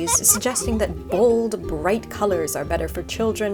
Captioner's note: child giggling